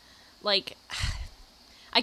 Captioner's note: sighs